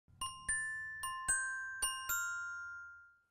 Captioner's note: bell chiming